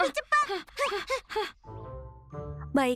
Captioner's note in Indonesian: Pinkfong terengah-engah